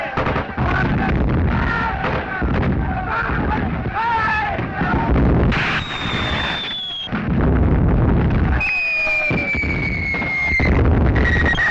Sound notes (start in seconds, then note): 0.7 screaming